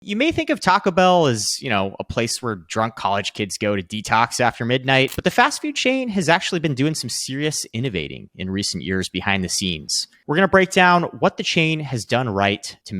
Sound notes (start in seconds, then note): 5.0 screen clicking